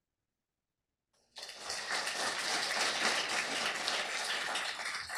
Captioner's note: applause